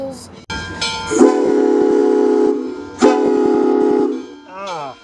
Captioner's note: bell sounds in background and loud train whistle goes off